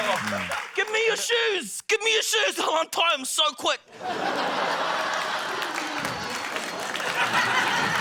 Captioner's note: laughter